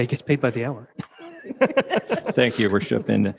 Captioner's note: all laughing